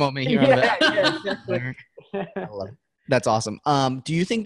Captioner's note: all laughing